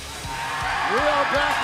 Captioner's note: cheers and applause